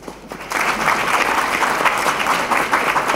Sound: applause

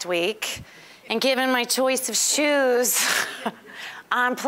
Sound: chuckling

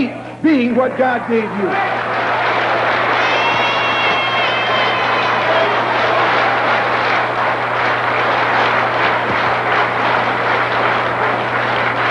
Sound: applause

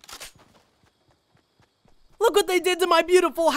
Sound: gun clicks

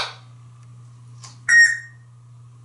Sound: beep!

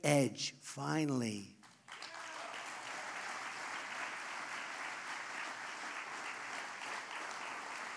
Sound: applause

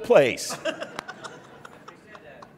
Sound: laughing

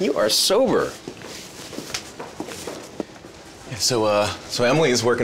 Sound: busy office. typing. talking

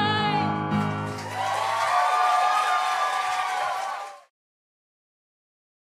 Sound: applause

